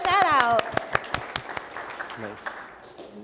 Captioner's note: applause